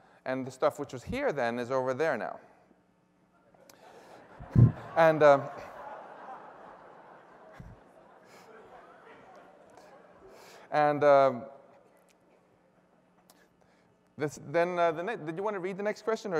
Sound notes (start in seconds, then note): 3.9 laughter